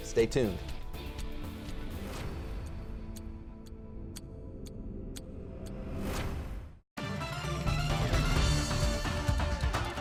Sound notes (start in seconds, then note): 0.0 upbeat music; 2.8 ticking; 7.0 upbeat music